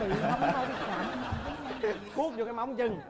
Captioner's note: laughing